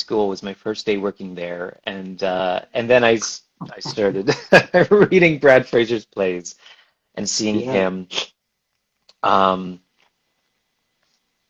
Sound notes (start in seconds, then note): 3.6 laughs